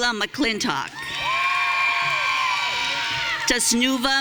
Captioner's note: audience cheering